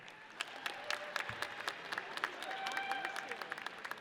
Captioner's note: audience cheers